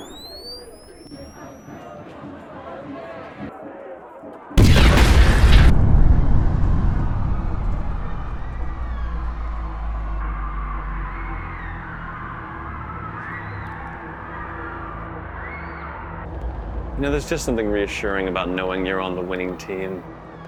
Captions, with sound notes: (bomb timer whistling) (bomb exploding) (distant people screaming) - You know there's just something reassuring about knowing you're on the winning team.